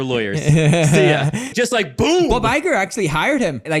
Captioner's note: laughs